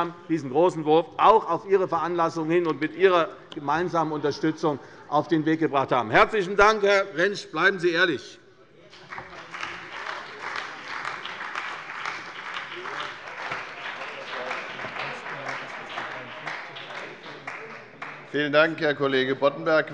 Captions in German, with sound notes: auch auf Ihre Veranlassung hin und mit Ihrer Unterstützung, auf den Weg gebracht haben. Herr Kollege Rentsch, bleiben Sie ehrlich. - Herzlichen Dank. [Beifall bei der CDU und dem BÜNDNIS 90/DIE GRÜNEN] Vielen Dank, Herr Kollege Boddenberg.